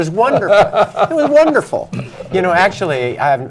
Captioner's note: laughter